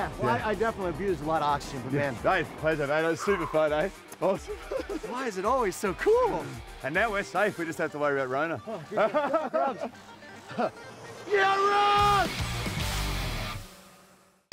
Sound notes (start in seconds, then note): 8.6 laughter